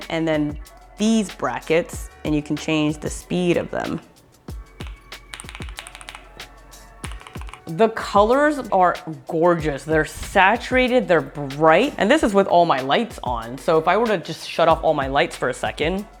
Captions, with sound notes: and then these brackets, and you can change the speed of them. (keyboard clicking) The colors are gorgeous. They're saturated, they're bright, and this is with all my lights on. So if I were to just shut off all my lights for a second,